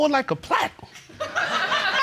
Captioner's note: audience laughing